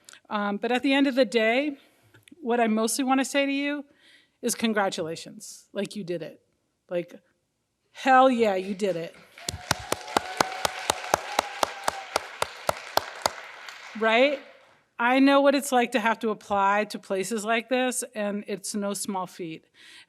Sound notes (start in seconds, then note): 9.1 crowd and host applauding